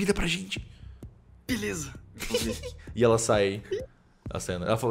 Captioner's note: giggles